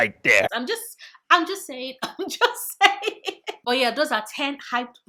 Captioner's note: laughs